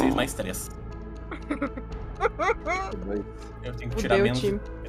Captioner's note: laughs